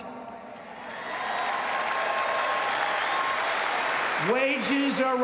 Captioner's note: applause